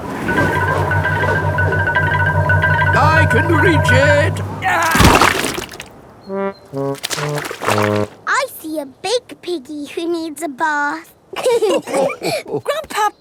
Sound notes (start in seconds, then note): 4.9 groans; 11.5 all laughing